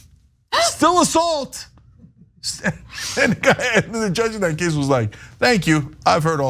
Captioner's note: laugh